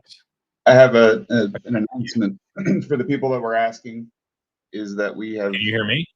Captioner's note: clears throat